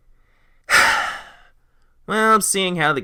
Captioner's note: sigh